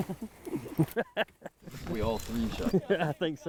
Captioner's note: laughing